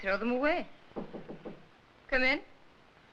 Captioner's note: knocking on door